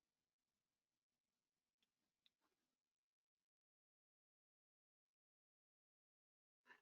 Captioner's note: 5 seconds pause